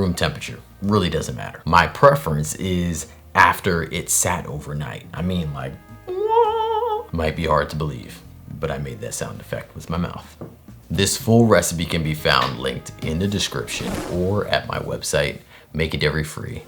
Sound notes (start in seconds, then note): 5.7 wahhhhh